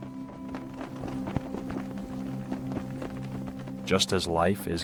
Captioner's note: flags flapping; gentle music